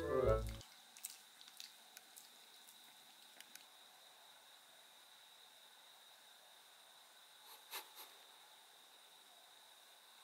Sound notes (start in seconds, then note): 0.2 slurping